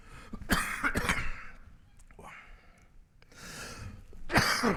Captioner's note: presenter coughs